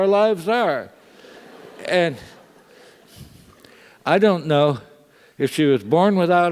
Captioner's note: laugh